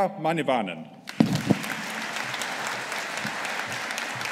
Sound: audience applauding

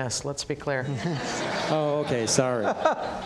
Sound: audience laughs

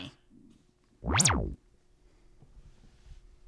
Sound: digital boot-up sound

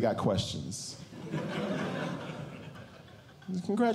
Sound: audience Laughing

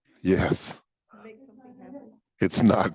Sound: faintly speaking

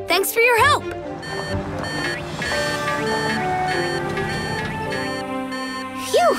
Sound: beeping

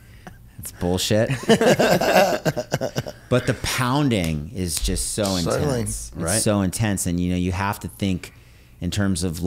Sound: laugher

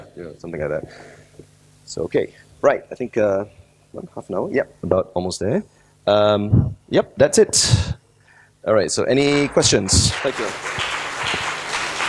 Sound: applause

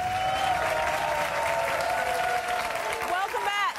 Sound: audience applause

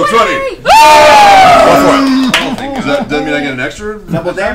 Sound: all cheer

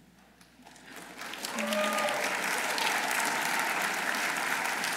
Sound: audience applauding

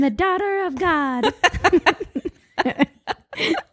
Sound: both laugh

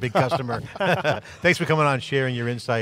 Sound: group laughs

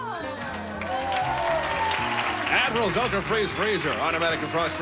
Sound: audience applauding

